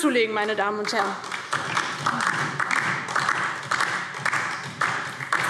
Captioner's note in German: Beifall DIE LINKE